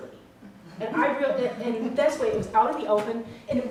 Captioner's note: audience laughing